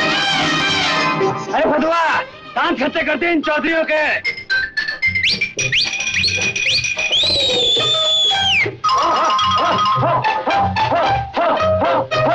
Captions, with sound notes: Hey, let's show these Chaudharys what we got. (Whistling) (Cheering)